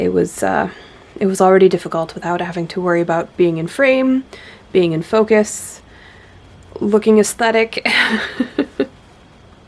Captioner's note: laughs